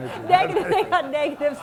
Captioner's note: laughter